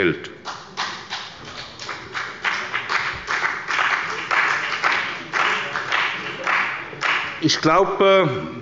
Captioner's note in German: Beifall bei der CDU und dem BÜNDNIS 90/DIE GRÜNEN